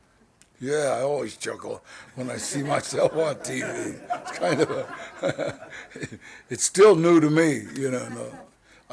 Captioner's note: laughing